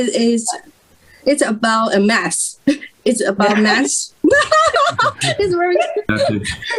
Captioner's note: risas